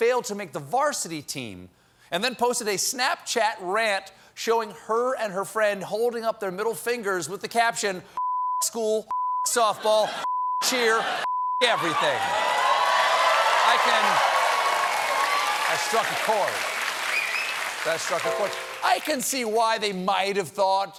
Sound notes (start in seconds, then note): 10.3 cheers and applause; 11.7 applause